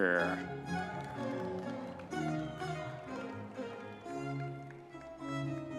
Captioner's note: audience members cheering